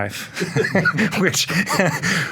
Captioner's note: all laughing